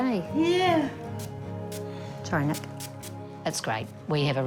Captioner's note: spray hisses